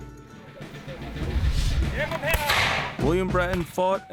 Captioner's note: gunfire